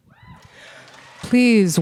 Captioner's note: audience cheering; audience applauding